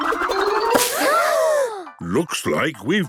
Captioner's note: all gasping